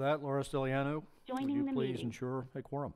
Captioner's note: phone Voiceover